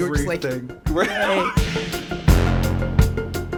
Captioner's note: laughs; theme music